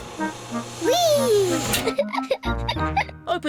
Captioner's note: giggles